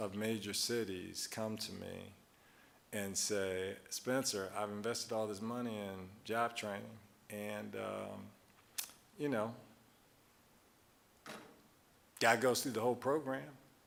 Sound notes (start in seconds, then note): none